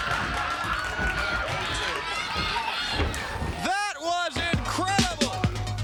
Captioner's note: crowd chatter